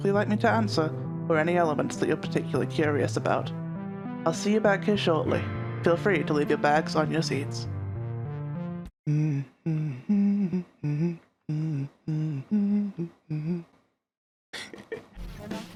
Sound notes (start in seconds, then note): 9.0 humming; 14.5 laughter